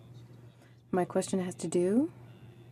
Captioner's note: speaking French